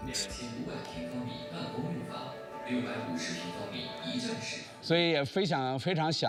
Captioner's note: man speaking foreign language; speaking foreign language